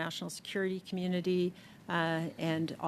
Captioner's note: speaking French